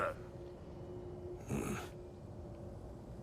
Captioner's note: grunt